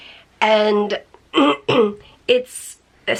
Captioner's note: clears throat